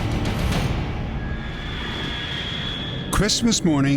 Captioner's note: high-pitched screech